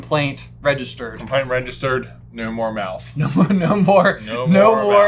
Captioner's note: laughs